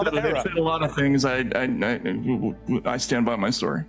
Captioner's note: stammering